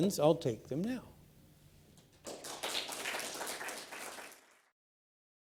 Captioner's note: applause